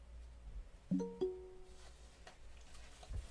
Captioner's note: computer bleep noise